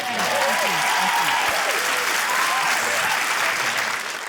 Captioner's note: cheering, applause